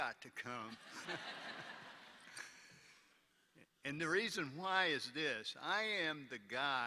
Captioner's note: laughter